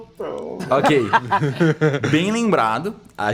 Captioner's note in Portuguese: risos